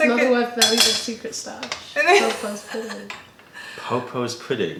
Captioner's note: laughter